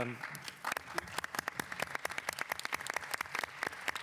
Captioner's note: applause